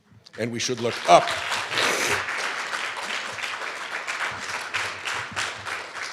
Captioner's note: applause